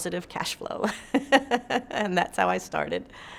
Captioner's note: laughs